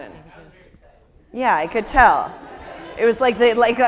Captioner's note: people laughing